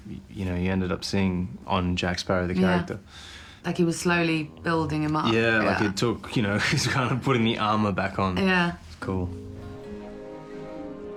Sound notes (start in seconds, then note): 6.4 chuckles; 9.4 guitar strumming